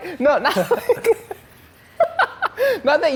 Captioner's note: laughing